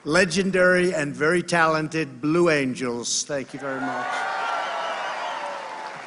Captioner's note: applause